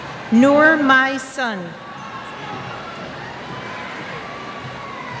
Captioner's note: cheers